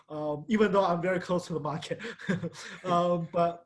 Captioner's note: laughs